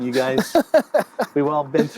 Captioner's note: laughs